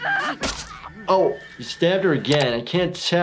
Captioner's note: screaming and sobbing; squelches